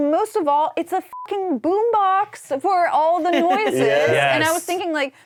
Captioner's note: beep